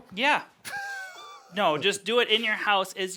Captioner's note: laughs